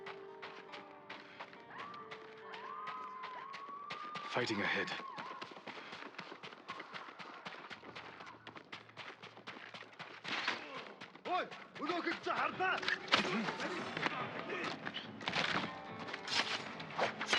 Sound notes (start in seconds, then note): 1.7 screams